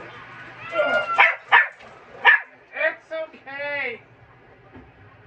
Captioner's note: Caprice meows in discomfort and Ella barks